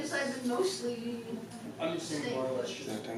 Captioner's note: office noise